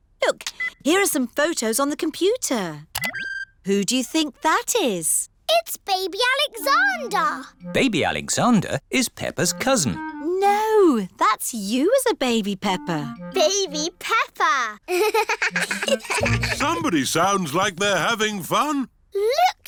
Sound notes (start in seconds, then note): 14.8 both laugh